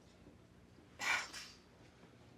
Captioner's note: scoffs